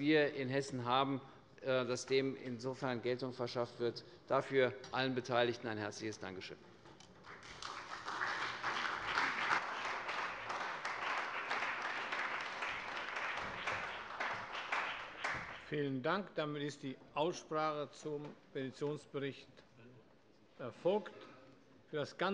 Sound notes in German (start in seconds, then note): 7.2 Beifall bei der CDU, der SPD, dem BÜNDNIS 90/DIE GRÜNEN und der FDP